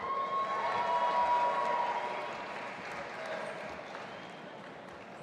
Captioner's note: audience applauding and cheering